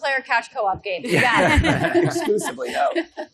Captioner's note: all laughs